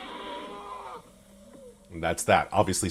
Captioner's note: cries